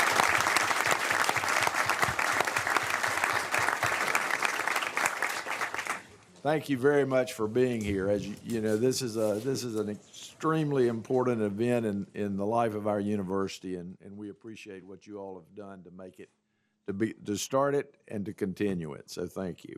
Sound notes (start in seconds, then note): 0.0 applause